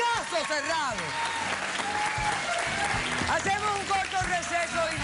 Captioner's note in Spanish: aplausos